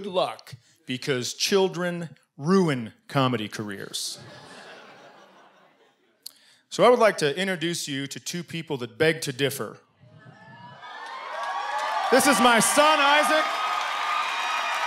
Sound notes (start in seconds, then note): 10.1 cheering and applause